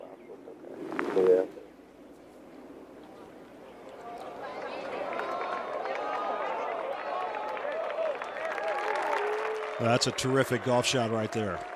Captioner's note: applause